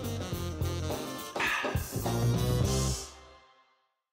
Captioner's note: upbeat jazz music; exhales